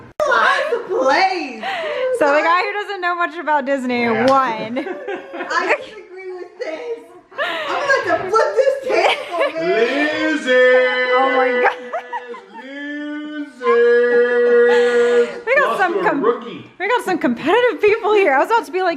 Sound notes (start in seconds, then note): 15.2 laughs